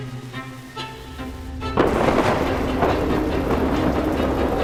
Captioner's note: thunder booming